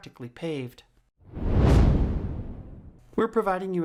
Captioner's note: air whooshing